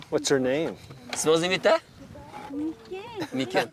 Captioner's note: translator speaking in foreign language